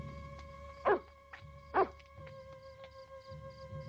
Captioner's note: wolf barks